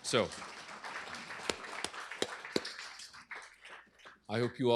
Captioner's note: applause